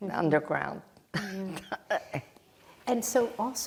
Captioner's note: laughing